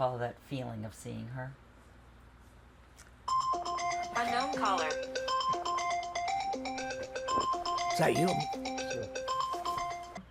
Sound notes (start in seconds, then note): 3.2 phone ringing